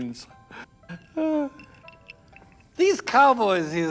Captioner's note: sigh